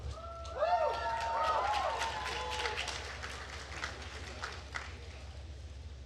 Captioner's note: attendees cheering and applauding